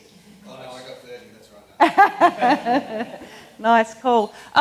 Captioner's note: both laugh